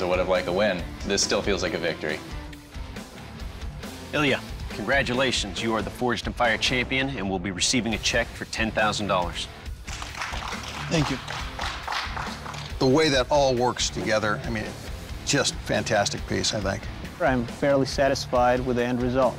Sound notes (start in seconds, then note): 9.8 applause